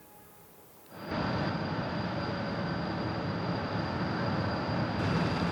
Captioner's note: machines humming